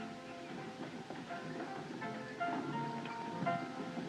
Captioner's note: hoofbeats